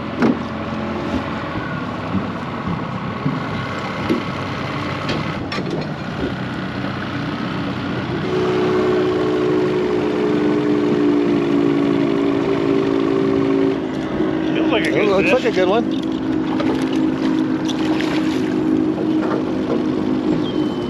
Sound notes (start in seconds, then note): 2.9 boat engine idling; 12.3 clattering; 18.0 boat engine idling